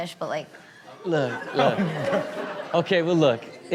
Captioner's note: audience laughing